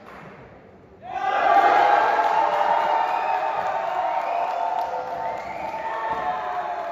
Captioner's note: 박수 갈채